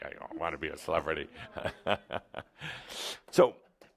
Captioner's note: Adamus chuckles